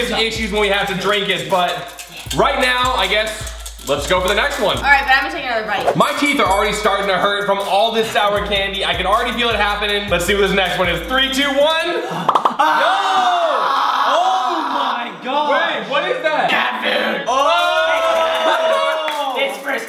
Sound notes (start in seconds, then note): 12.0 gasps and screams